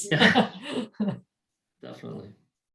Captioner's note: laughs